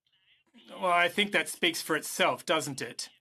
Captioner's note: speaking in French